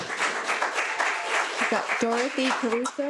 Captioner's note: audience clapping